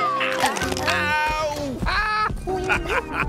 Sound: cracking; Tobor laughing

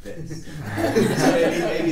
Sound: group laughing

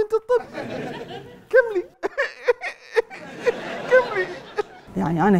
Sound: fake crying

